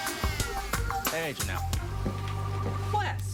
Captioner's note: none